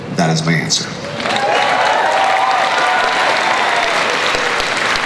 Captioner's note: crowd cheers and applauds